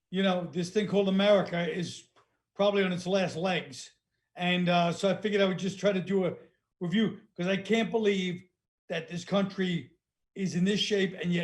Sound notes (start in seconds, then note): none